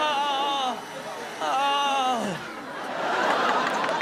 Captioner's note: mimics crying; machine whirring; Chanel and audience laughing